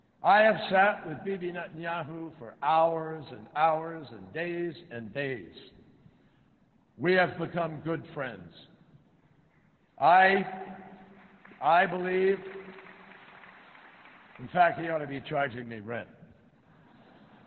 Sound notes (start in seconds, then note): 11.1 applause